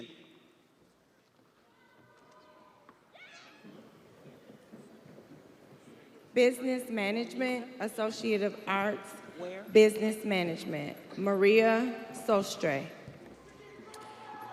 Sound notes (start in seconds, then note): 5.4 students chattering